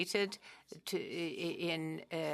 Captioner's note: speaking French